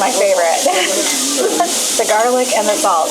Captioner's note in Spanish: risas